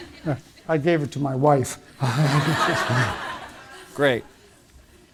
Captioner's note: all laughing